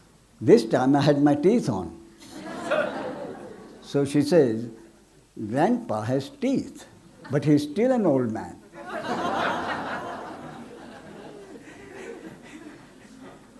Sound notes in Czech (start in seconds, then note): 8.7 smích